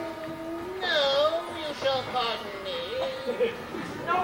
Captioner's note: in a fake voice